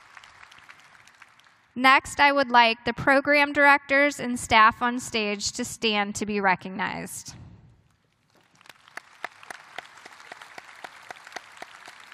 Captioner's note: applause